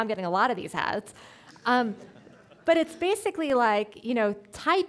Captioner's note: audience laughing